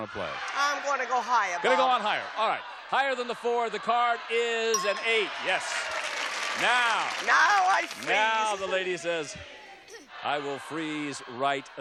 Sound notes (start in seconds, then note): 4.8 applause